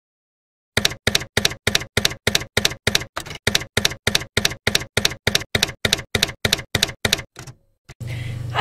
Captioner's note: typewriter keys clacking